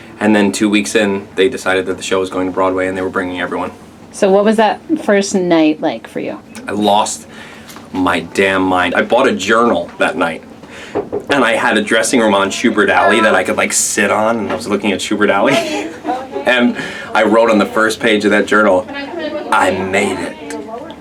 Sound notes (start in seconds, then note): 15.3 laughs